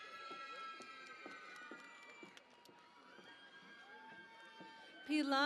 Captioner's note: cheering and Applause